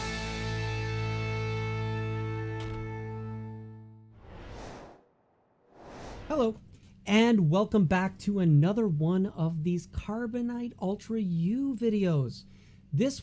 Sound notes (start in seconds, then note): 4.1 air whooshing